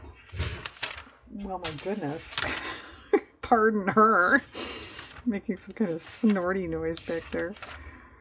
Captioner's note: laughs at dog